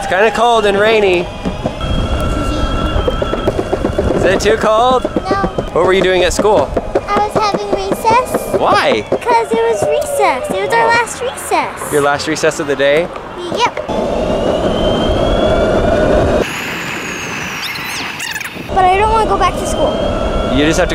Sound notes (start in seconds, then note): 17.2 tape fast forwarding